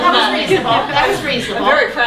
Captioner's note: laughing